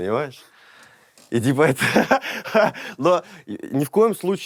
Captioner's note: laughs